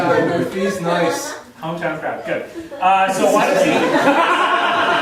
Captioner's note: audience laughing